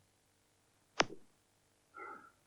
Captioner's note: clicks Fingers